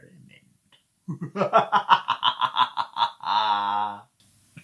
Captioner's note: laughs evilly